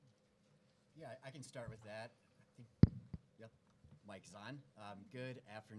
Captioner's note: microphone thumps